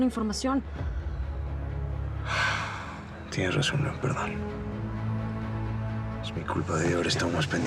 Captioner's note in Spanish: exhala